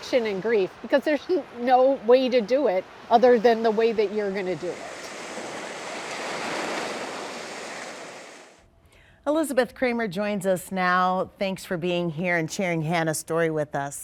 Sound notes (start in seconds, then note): 8.2 waves crashing